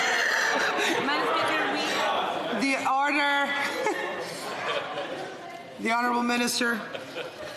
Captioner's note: laughter